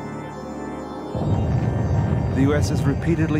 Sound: explosion booms

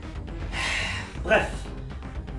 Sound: breathes

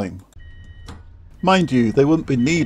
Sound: train door beeping

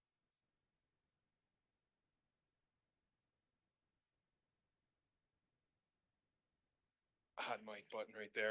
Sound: silence

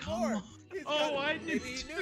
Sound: laugh

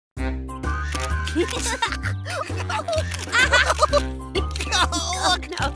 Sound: laughing

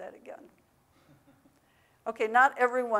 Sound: audience member laughs

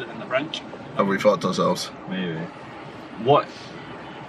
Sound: mumbles

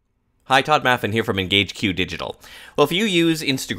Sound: voiceover

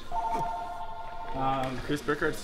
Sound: phone ringing

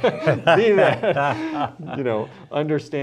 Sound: laughter

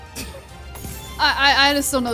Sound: laughs

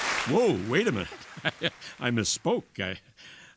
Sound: applause

